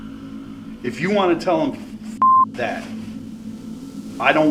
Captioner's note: beep